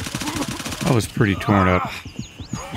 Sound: gunfire

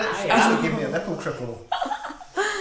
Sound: laughs

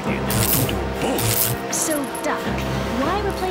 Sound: zapping sound

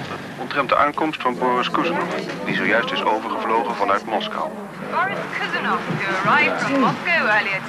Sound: television news announcement

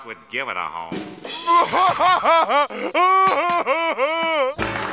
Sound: laughing

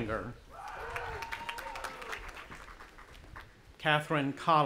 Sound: audience applauding and cheering

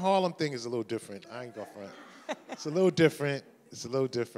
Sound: chuckles

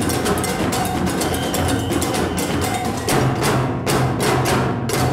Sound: whistle blows

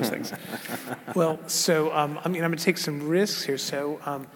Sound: laugh

